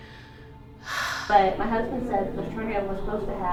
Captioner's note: sighs